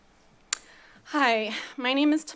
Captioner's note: smacks lips